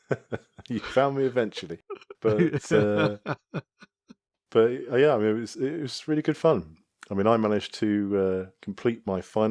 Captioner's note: laughs